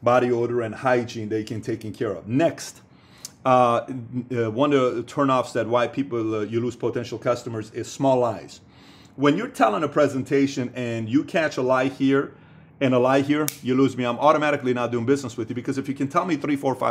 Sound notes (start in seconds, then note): 13.4 snaps finger